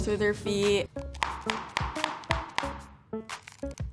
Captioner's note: knocking